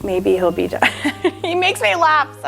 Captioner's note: laughs